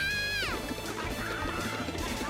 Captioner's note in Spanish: emocionado